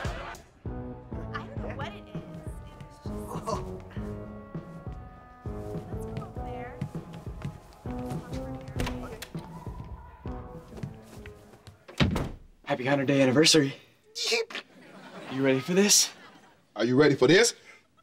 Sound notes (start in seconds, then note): 0.6 indistinct chattering; 7.4 indistinct chattering; 14.6 chuckles